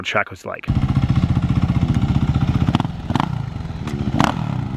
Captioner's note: engine revving